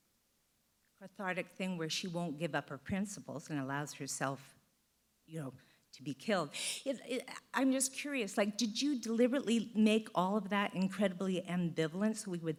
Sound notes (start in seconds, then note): none